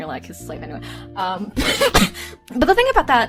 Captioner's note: coughing